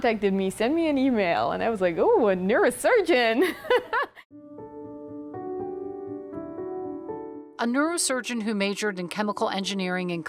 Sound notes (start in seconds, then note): 4.5 laughs